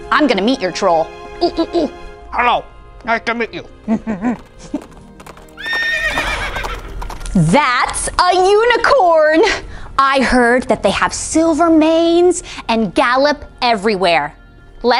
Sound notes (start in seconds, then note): 3.9 horses galloping